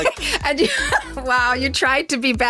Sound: laughing

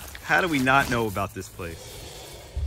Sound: dinosaur roars

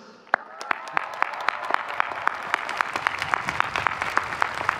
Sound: audience cheering

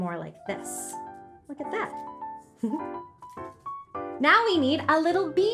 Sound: giggles

